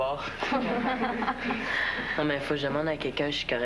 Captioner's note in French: Rires